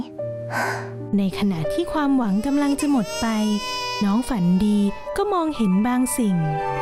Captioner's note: crying